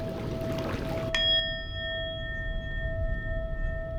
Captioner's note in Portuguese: tilintar metálico ressoa